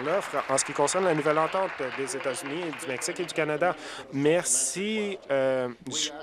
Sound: applause

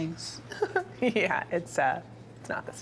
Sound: giggles

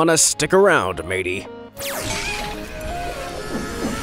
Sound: playful music; electricity buzzing

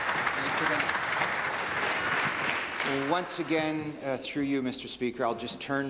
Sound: applause

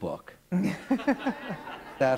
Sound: laughter

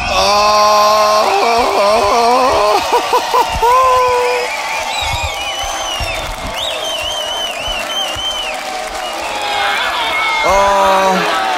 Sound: crowd cheering

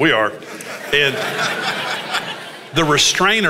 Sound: congregation laughs

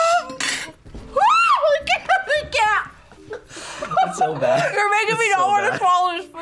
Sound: squeaks; whimpers; screams

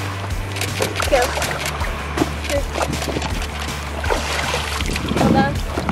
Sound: camera shutter clicking

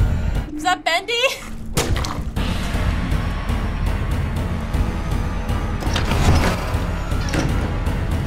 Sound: intense music; door opening

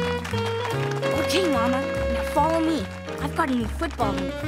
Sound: applauding

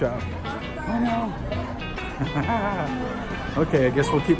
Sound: chuckling

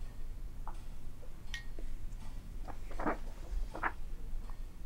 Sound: clock tic tocks in background

